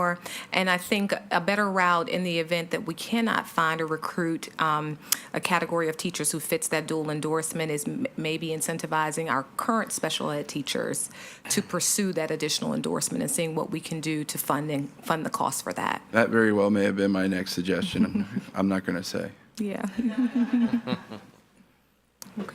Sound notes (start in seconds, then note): 17.8 chuckles; 19.9 attendees laughing